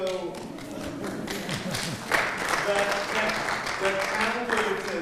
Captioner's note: audience clapping